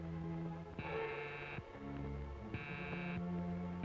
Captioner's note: phone buzzing